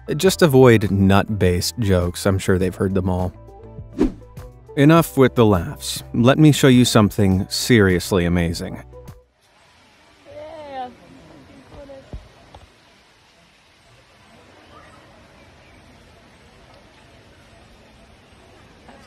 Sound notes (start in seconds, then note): 3.9 air whooshing